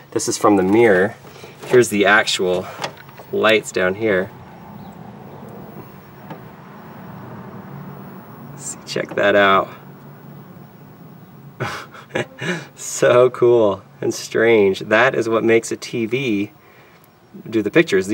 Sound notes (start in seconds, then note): 11.5 laughs